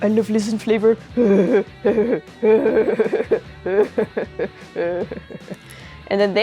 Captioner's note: evil laugh